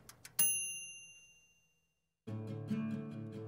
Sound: bell rings; mellow music

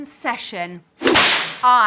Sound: slaps ruler against her hand

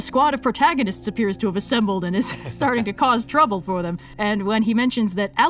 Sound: laughs

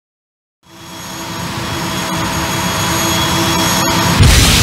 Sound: 32-bit video game sounds continuing

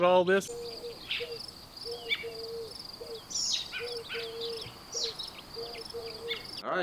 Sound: birds chirping; owls hooting

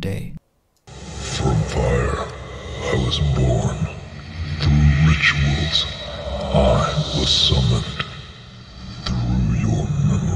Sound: demonic growl

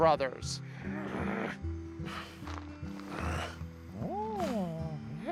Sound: אולי נוהם

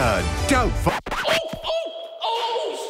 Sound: record scratching

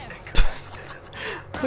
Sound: laughs

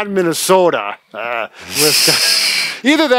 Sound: laughing

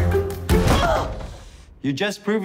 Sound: door bangs

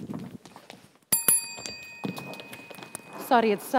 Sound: ding ding

